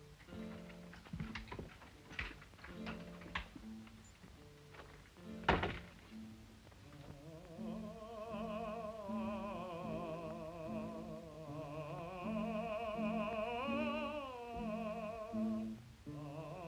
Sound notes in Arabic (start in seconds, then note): 0.0 يغلق الباب; 0.3 موسيقى جيتار خافتة; 5.4 يغلق الباب; 5.7 غناء وموسيقى الجيتار